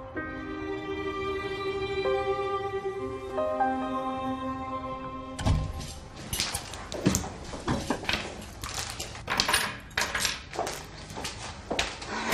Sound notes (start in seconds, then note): 5.3 door closing; 5.8 rustling